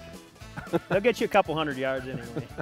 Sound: laughter

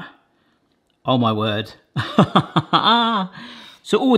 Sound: laughing

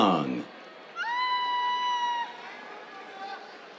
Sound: cheers

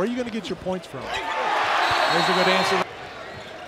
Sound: crowd cheering

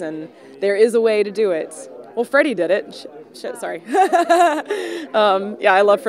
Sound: laughs

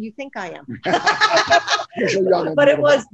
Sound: everyone laughing

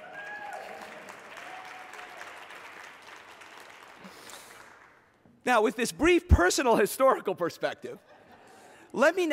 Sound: applause; laughter

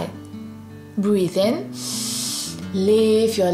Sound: breathes in deeply

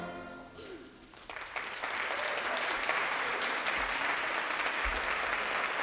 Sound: audience applauding

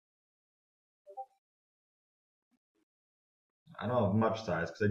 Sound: computer beeps

